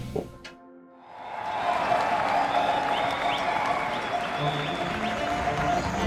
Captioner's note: crowd cheering and whistling